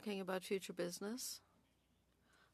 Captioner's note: speaking French